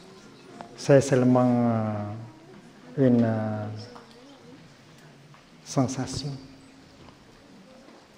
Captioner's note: french